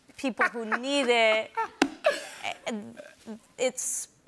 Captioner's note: laughs